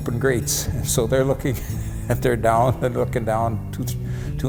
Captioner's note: chuckles